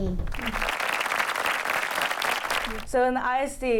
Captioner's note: applause